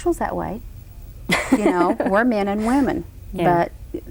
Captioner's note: Cruz laughs